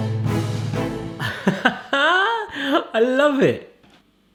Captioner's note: laughs